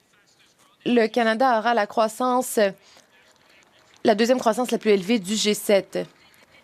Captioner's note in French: voix de l'interprète